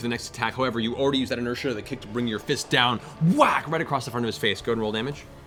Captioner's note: whack